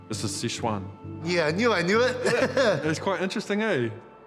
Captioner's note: laughs